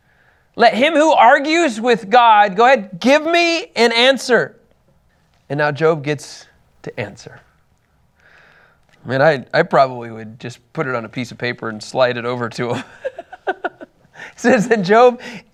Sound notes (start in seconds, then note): 12.7 laughs